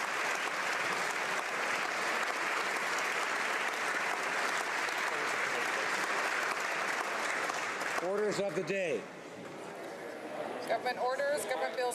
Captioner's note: applause